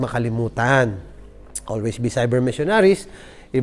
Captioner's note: tsk